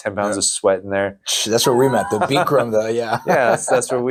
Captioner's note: laughs